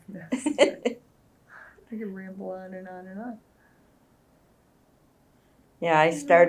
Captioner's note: laughter